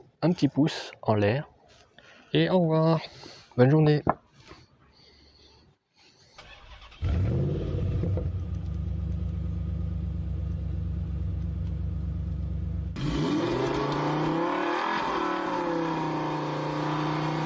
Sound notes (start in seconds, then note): 4.8 car purring; 6.7 car acceleration; 8.7 car purring; 10.7 car acceleration; 12.7 car crash